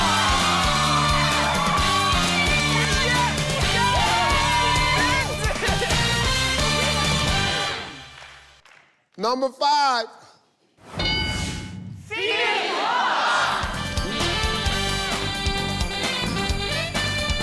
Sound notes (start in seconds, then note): 0.0 upbeat victorious music; 11.0 bell dings; 13.6 upbeat game show music